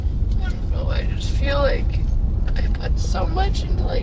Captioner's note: tearfully